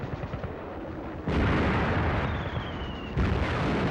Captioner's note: guns firing